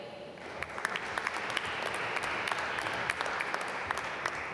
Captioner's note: applause